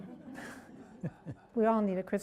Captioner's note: laughs